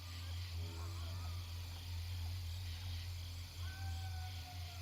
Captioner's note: animals hooting